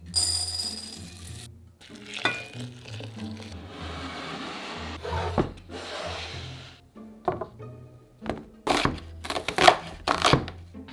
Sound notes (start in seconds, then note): 0.2 sunflower seeds pouring; 1.8 water pouring; 5.5 cutting board sliding; 8.6 knife chopping